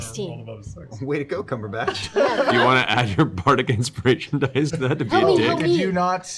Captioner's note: laughing